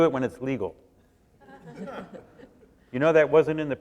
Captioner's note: laughter